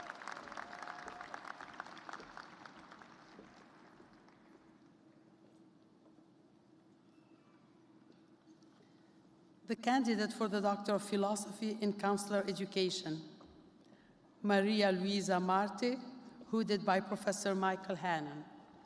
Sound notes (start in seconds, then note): 0.0 cheers and applause